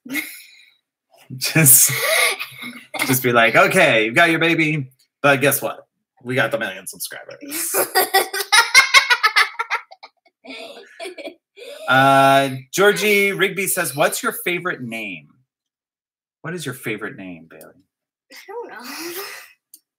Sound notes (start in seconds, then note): 0.2 laugh; 7.6 laughter